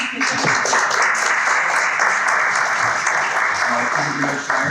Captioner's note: people clapping